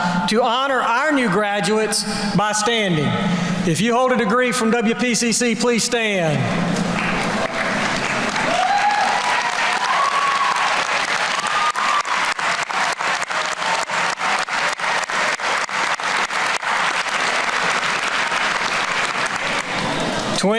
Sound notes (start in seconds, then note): 6.9 applause